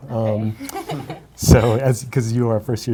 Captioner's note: chuckles